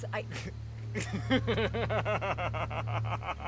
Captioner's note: Noah laughing